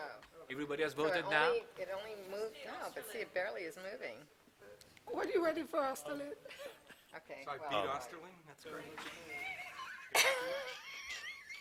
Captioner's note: laughter